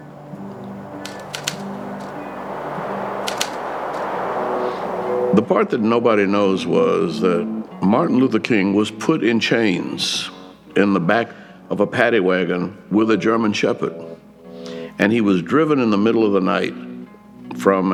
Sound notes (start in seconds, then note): 1.0 typewriter keys clicking